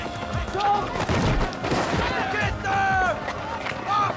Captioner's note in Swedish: Locos skriker